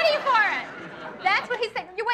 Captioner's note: audience laughs